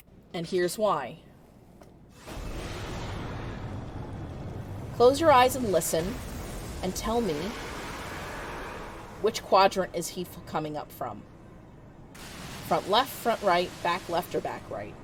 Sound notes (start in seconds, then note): 2.2 magical machinery whirring to life; 3.6 intense bubbling; 7.2 Leviathan roars; 12.1 loud splashing